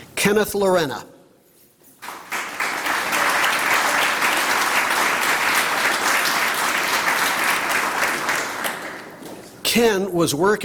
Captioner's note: applause